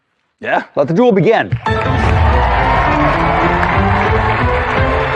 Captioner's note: cheering and applause; dramatic music